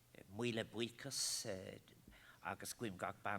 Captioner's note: foreign Language